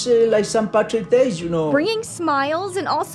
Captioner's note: soundbite of archived recording